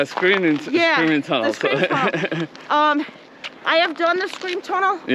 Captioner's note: laughs